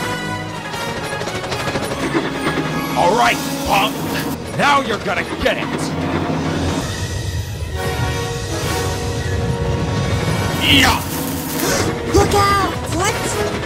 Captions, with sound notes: ALRIGHT PUNK, NOW YOU'RE GONNA GET IT!!! (RUMBLE) (GRUNT) (GASP) LOOK OUT!!! WHAT?!